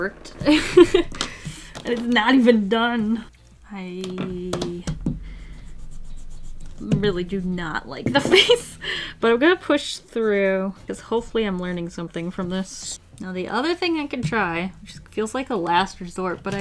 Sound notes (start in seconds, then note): 0.0 laughs; 8.1 laughs